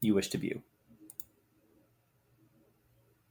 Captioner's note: mouse clicking